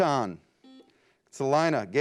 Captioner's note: beep